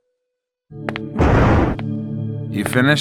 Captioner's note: convenient thunder